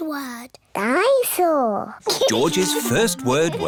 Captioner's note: giggles